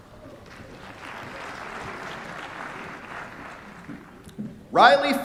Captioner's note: applause